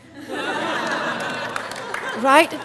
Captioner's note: audience laughing and clapping